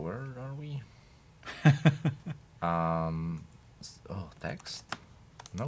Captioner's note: chuckles